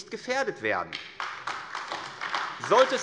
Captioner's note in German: Beifall AfD